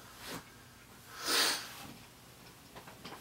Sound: sniffs

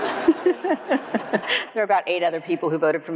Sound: everyone laughs

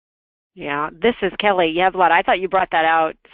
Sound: voiceover

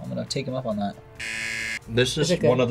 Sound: buzzer rings

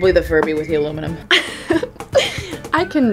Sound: laughs

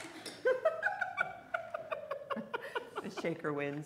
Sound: laughing

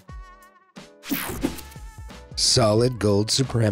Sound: swooshes

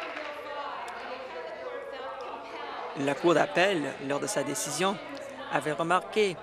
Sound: applause

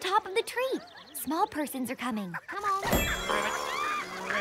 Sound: excited chattering

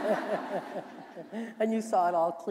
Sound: laughter

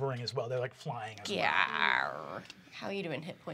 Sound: groans

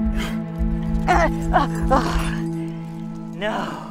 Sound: groans

